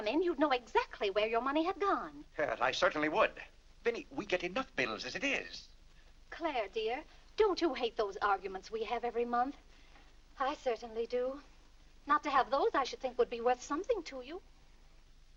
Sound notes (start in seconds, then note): none